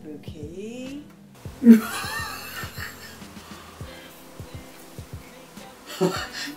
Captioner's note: laughs nervously